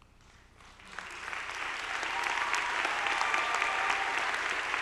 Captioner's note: audience applauding